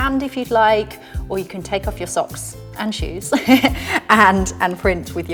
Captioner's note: chuckles